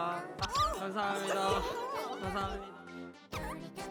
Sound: lots of bandmakers who can't contain their squeals

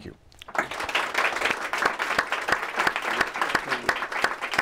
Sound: applause

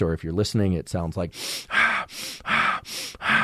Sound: inhaling and exhaling

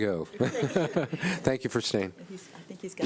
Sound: laughter

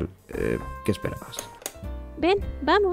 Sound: click

